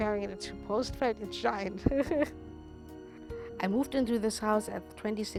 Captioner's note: laughs